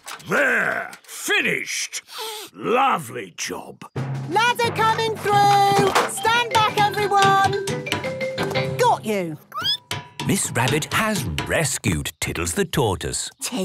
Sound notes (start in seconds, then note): 9.4 squeaking